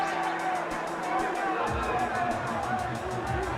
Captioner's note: crowd cheering